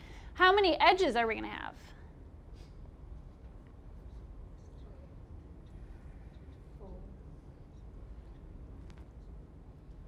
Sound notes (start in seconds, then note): none